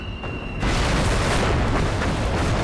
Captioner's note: explosion